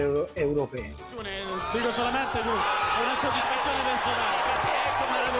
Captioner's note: Italian spoken audio